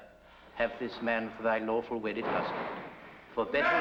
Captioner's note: door burst open